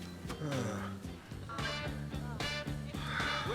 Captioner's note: sighs